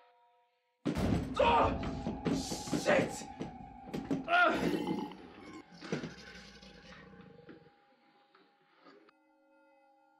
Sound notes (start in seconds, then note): 1.1 thudding; 1.1 yelling; 4.4 grunting; 4.5 snarling